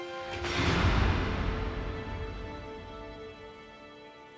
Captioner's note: gentle instrumental music; door booms